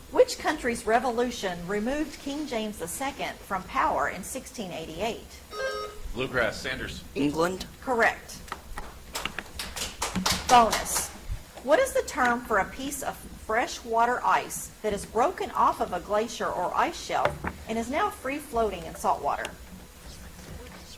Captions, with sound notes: Which country's revolution removed King James II from power in 1688? (buzzer chimes) - Bluegrass, Sanders. - England? - Correct. (audience applauds) Bonus. What is the term for a piece of fresh water ice that is broken off of a glacier or ice shell and is now free floating in saltwater?